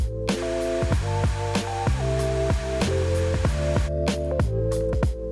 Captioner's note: bright upbeat music; hair blower whooshing